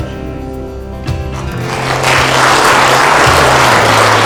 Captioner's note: applause